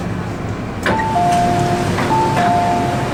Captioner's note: doors opening chime